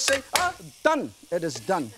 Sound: smashes garlic

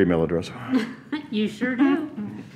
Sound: chuckles

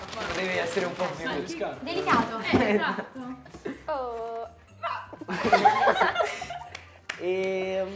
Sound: laughter

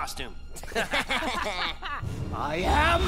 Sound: laughing

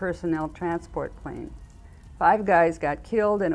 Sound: sirens

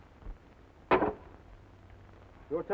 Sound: knife thuds

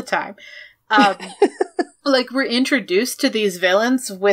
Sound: laughs

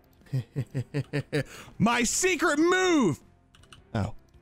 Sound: laughs

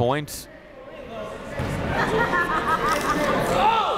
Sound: chatter

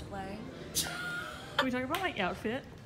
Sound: laughing

